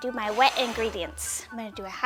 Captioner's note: bowl scraping